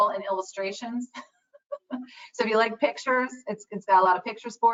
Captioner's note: laughs